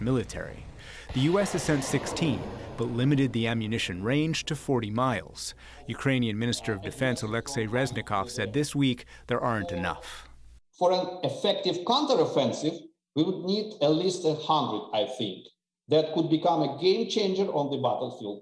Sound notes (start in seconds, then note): 10.5 through translator